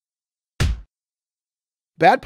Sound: punch sound

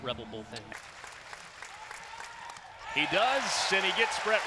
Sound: clapping

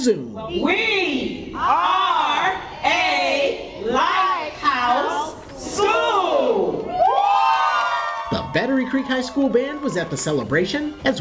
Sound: crowd

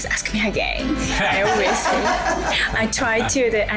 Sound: all laugh

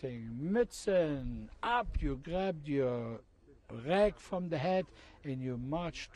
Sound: non-english speech

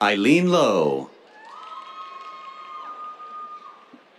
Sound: cheers, applause

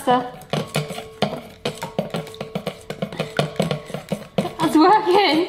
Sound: sticks banging on bowl

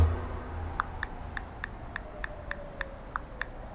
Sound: sirens and mobile phone keyboard

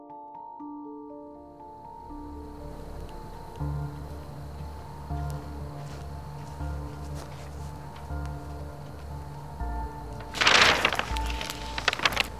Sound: gentle music; paper crumpling

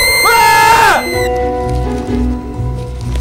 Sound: men scream; woman screams

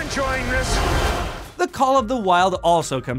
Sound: water rushing

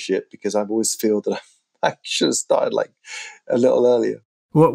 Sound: laughter

